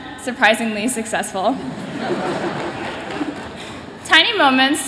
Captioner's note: laughter